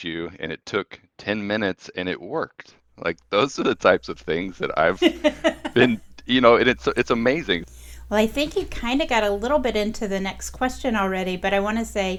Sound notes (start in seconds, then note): 6.7 laughing